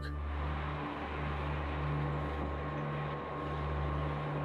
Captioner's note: machines whir